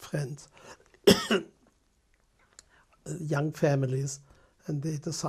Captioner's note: pauses for 3 seconds